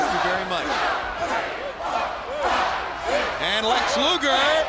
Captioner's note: crowd cheering